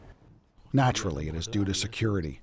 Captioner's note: through translator